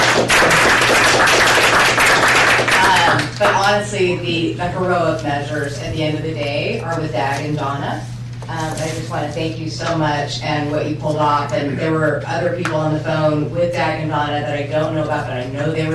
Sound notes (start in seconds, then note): 0.0 applause